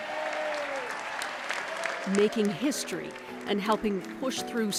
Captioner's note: applause